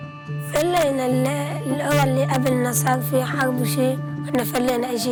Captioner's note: somber music; speaking foreign language